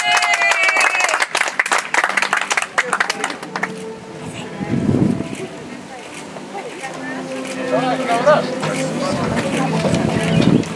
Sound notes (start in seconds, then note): 3.1 audience applauds; 8.2 soft music